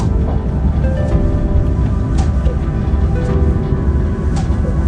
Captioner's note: pitapat